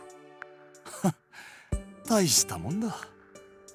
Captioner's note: chuckle